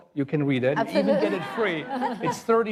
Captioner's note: laughing